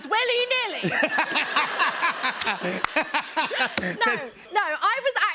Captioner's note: laughter